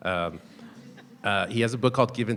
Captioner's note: people chuckling